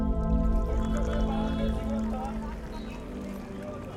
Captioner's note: background chatter